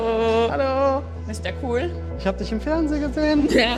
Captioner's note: in German; laughs